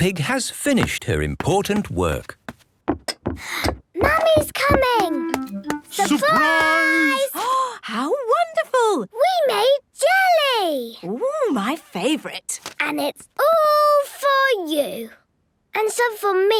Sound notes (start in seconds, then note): 3.7 footsteps approaching; 8.4 gasps